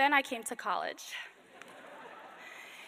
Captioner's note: laughter